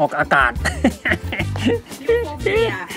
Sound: chuckling

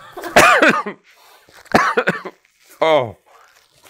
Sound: coughing

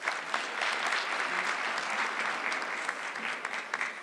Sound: audience clapping

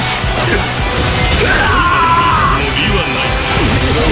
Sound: KO Scream

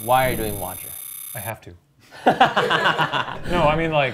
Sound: all laughing

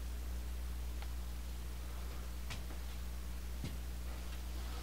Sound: footsteps

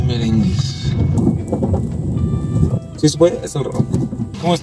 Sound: wind blowing

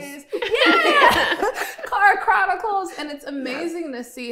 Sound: all laughing

